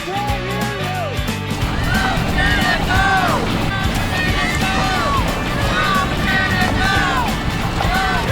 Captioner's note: fans shouting from boats